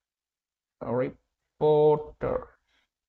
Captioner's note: voice-over in English